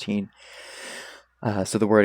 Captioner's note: inhales swarm of flies